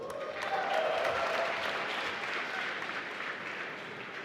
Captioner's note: applause